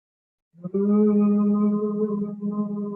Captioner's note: humming